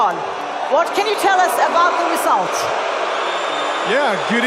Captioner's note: loud booing